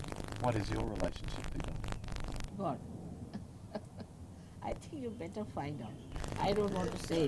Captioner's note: laughs